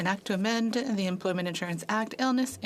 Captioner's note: speaking French